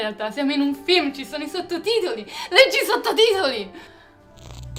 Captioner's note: mom gasps